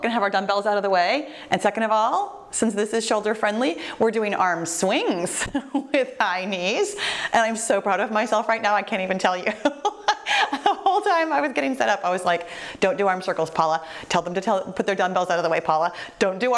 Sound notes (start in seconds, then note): 9.4 laughter